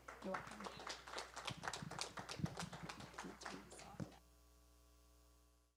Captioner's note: audience applauding